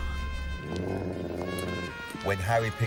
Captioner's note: dog growls